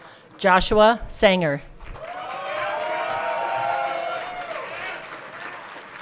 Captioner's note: everyone cheering